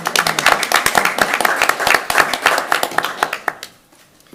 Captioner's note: hands clapping